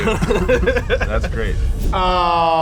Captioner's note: laughter